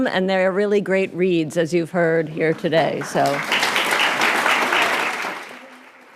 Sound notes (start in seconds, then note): 2.4 applause